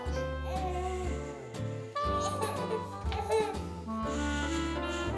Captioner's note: Danielle shushes